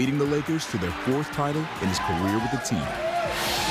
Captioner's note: players cheering